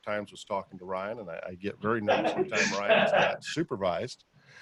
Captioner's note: laughing